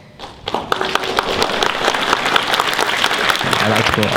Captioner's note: audience claps